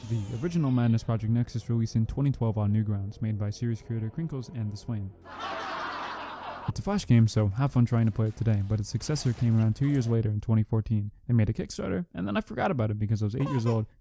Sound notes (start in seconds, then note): 5.2 canned laughter